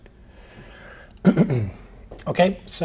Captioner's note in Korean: 기침